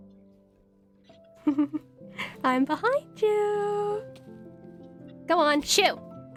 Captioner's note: ROSE giggles